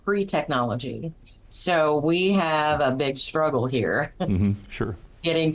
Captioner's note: chuckles